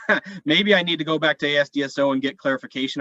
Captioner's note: laughs